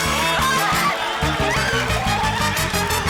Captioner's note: gasping